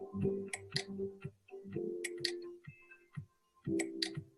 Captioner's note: mouse clicking